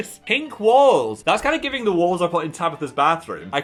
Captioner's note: none